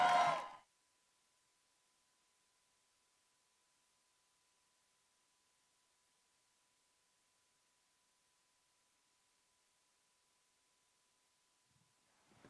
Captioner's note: applae